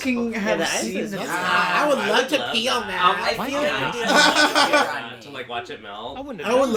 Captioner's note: laughs